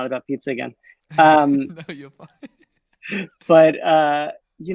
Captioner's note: laughs